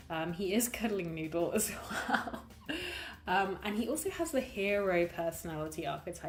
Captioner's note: laughs